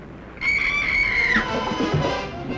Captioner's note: railing cracks; screams; tense music